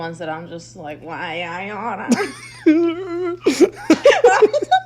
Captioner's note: both laughing